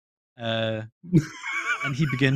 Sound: laughs

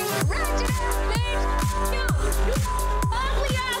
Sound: beep

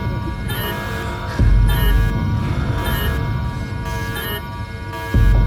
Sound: alarm

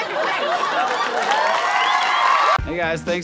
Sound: applause

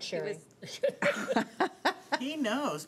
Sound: laughing

